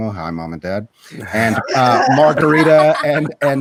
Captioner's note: participants laughing